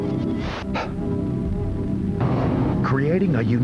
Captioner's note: electric pulses